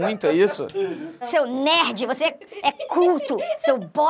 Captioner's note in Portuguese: risadas